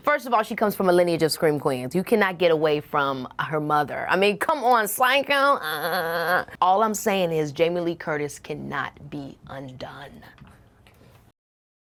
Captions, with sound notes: First of all, she comes from a lineage of scream queens. You cannot get away from her mother. I mean, come on. "Psycho!" (exclaiming) All I'm saying is Jamie Lee Curtis cannot be undone.